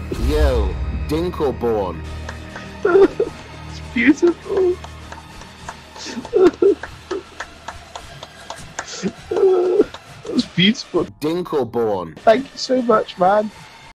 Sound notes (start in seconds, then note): 2.0 sobbing, applauding; 6.0 tears of joy; 9.0 tears of pain